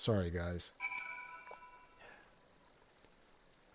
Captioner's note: bell rings